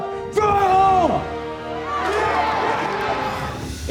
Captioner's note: cheers and applause